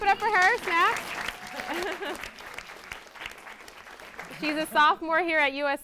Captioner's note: audience claps